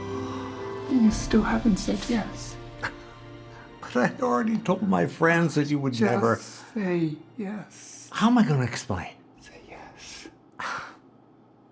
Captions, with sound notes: You still haven’t said yes. *Florio chuckles* But I already told all my friends that you would never... Just say yes. How am I gonna explain... Say yes! *Florio exhales*